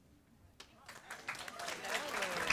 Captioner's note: applause